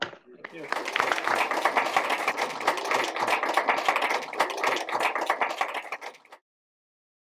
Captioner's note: applause